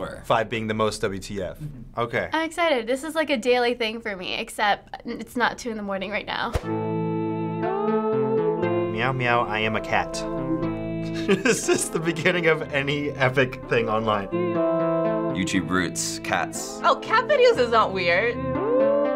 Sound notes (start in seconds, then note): 11.0 laughs